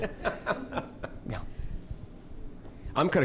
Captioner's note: participant laughing